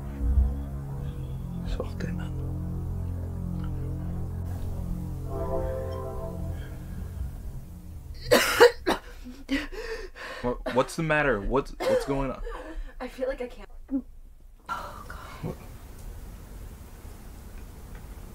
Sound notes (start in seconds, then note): 2.0 Jake continues speaking French; 8.3 Marla coughing